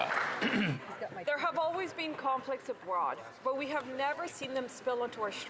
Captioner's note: applause